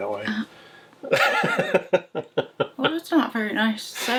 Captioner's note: laughing